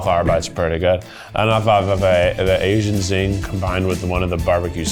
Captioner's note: stammers